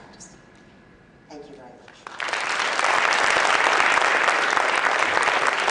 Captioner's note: applause